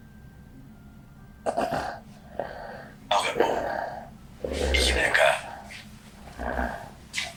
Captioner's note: achmet – artificial male voice